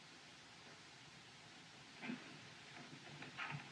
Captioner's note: footsteps